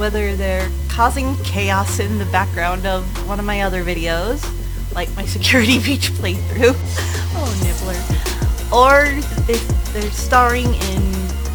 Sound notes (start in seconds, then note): 7.9 laughs